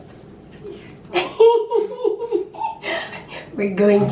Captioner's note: laughing